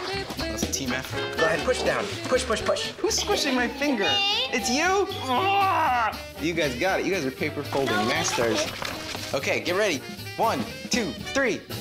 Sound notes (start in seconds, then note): 4.4 groans